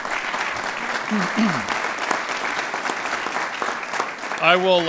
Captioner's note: applause